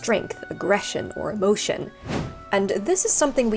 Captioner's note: screen wipe whooshes